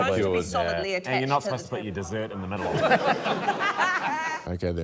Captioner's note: laughter